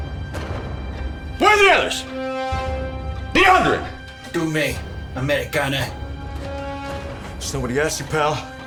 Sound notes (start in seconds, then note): 4.4 officer speaking German